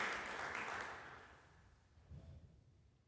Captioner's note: applause ends